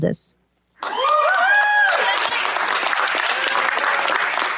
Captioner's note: cheers, applause